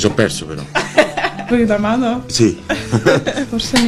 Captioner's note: giggles